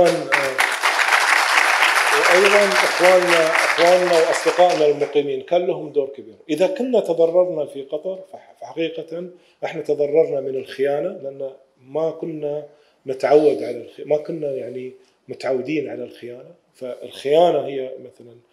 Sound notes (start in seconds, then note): 0.0 audience applauding; 3.0 speaking in foreign language